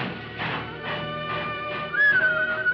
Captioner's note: whistling